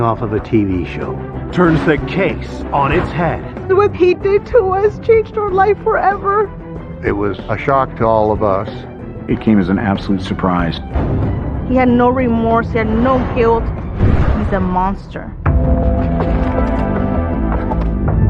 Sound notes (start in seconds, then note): 10.9 gun firing; 14.0 gun firing; 15.4 dramatic music